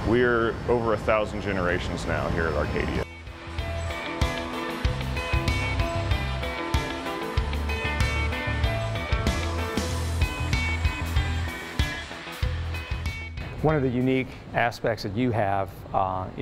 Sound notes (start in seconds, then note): 3.6 fun music; 6.6 machinery running